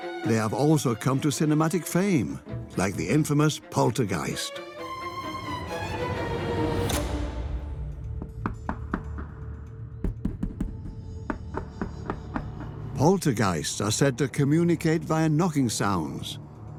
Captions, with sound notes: They have also come to cinematic fame, like the infamous Poltergeist. (dramatic music) (knocking) Poltergeists are said to communicate via knocking sounds